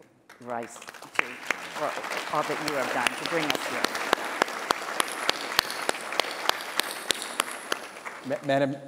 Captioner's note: applause